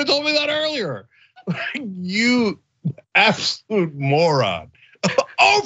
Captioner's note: laugh